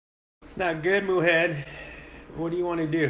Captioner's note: sighing